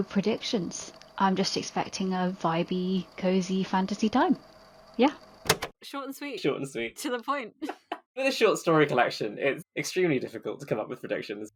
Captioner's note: laughs